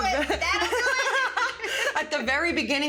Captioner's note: laughing